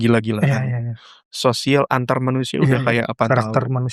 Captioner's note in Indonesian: berdehem